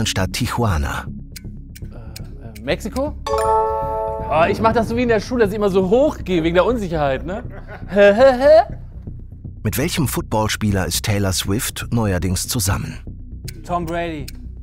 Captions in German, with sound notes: Mexiko? (Klingeln) Ich mach das so wie in der Schule, dass ich immer so hochgehe wegen der Unsicherheit. Hä? Hä? Hä? Tom Brady.